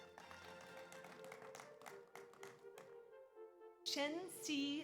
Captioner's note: audience applauds